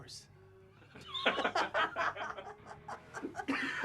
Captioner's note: both laugh